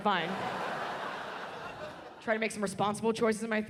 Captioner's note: audience laughs